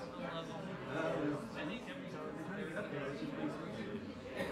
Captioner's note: people chattering